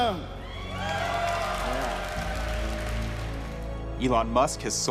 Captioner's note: cheers and applause